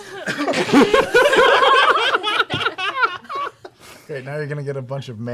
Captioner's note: laughter